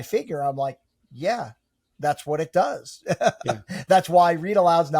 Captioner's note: laughs